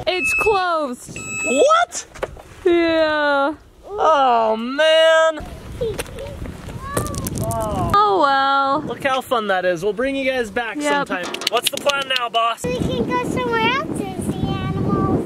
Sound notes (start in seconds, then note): 6.1 children laughing